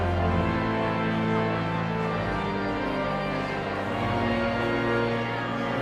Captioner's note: energetic organ music continues; audience chattering continues